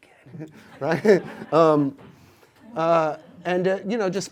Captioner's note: audience laughs